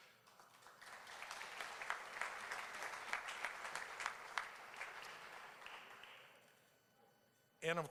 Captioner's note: applause